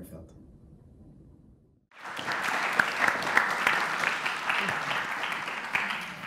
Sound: applause

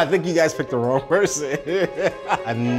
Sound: laughing

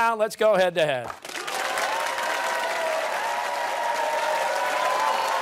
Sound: cheers and applause

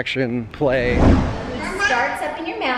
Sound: whoosh

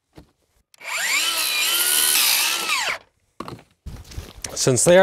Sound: saw whirling

